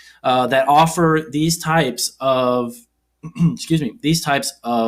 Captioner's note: clears throat